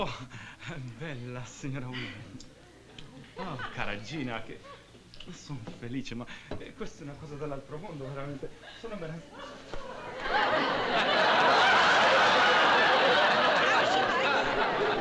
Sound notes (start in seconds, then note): 0.5 speaking italian; 4.7 speaking italian; 9.8 laughter